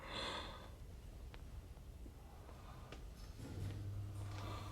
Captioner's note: heavy breathing continues